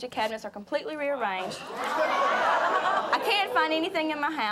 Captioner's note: audience jeering